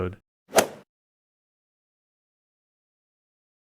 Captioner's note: golf ball hit sound